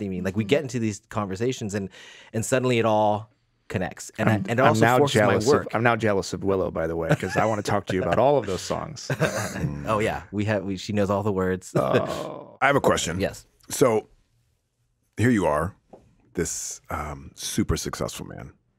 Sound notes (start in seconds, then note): 7.0 Jon laughs